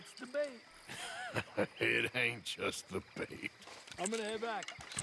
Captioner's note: laughs